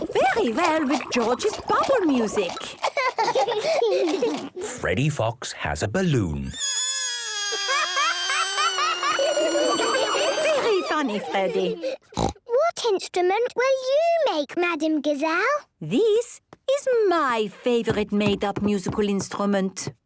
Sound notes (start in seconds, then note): 2.9 both laughing; 6.5 balloon air squealing